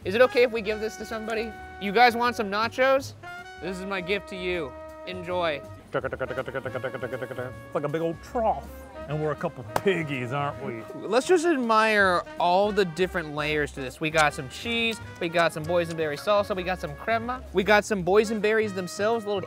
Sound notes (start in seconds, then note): 5.8 mimicking plate moving